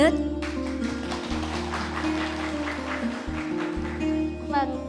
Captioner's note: applause